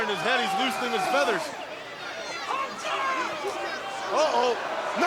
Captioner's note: crowd cheering